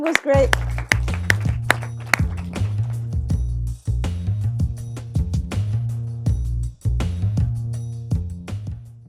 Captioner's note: applause